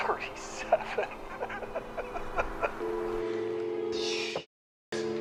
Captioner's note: killer laughing